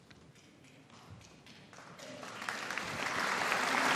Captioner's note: audience applauding